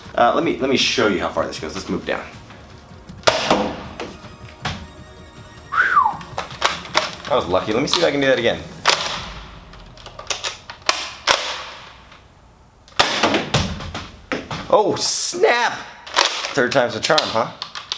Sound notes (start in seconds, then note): 3.2 gun firing; 3.3 dart hitting wall and bouncing back; 6.3 gun loading; 9.0 dart hitting wall and bouncing back; 9.7 gun loading